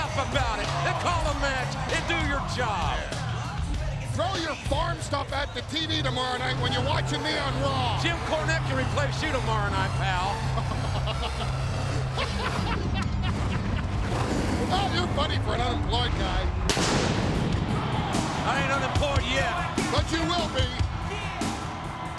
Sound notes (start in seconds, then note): 10.2 Paul laughing; 15.7 fire booming